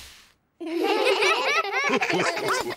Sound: all giggle

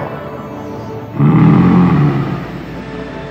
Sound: grunts

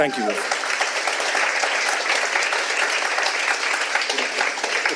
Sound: audience clapping

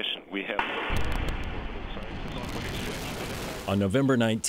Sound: sound of rocket engines

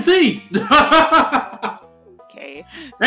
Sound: mayor-y laugh

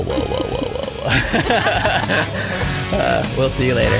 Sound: laughter

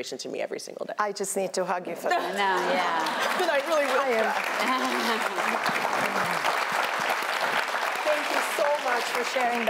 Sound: applause

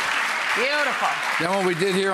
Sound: applause

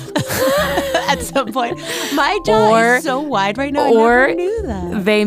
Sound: laughs

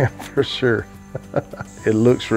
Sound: chuckles

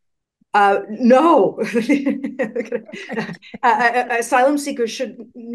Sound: laughing

